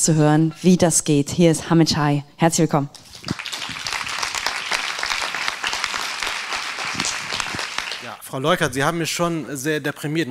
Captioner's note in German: applaus